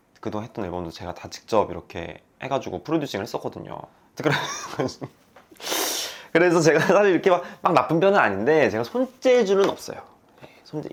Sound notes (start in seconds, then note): 4.1 bursting out laughing